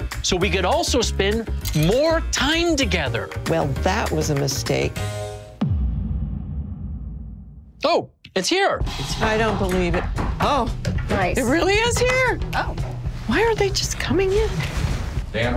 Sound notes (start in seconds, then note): 8.5 exciting music; 9.6 door knocking